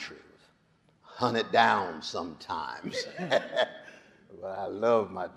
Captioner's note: laughs